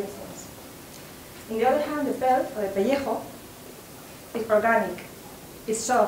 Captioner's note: spanish